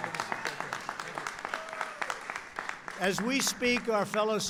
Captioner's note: applause